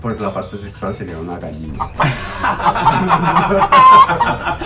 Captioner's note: laughter; applause